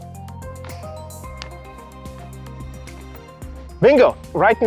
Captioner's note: hand tapping